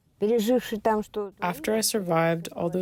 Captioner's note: through translator